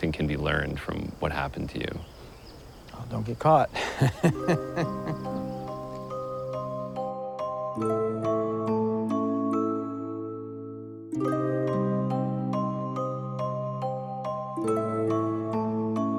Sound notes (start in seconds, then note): 3.7 chuckles